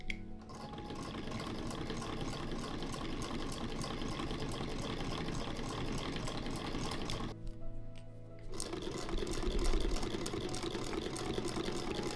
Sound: delicious antique sewing machine whirring

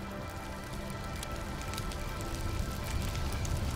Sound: campfire Crackling

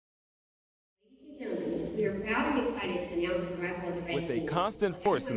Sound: announcer speaking

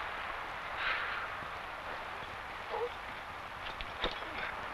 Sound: Esparza sighs

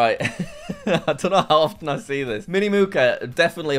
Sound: laughs

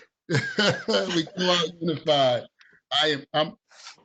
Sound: chuckling

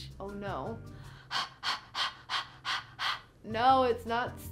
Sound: huffing breathing noises

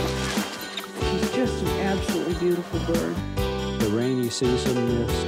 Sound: voiceover

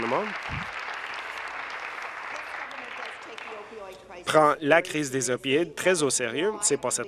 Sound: applause

